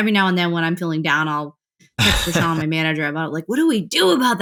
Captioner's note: laughter